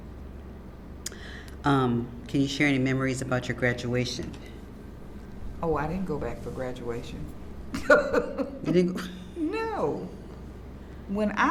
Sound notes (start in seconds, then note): 7.7 laughs